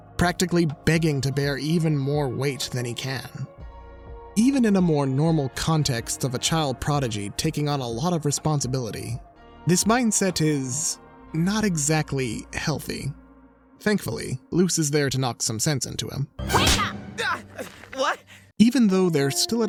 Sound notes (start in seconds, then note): 17.0 shouts